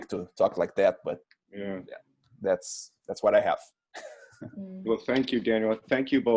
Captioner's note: laughs